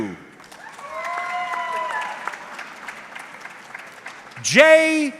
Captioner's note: audience clapping